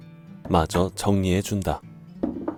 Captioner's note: chisel sound